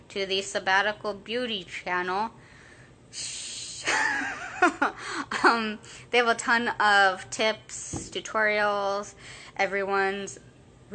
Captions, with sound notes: (laughing) They have a ton of tips, tutorials, everyone's reviews,